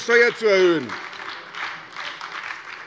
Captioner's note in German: Beifall bei der SPD